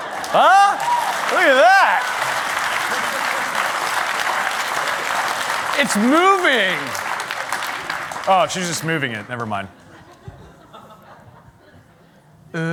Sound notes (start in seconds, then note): 2.6 applause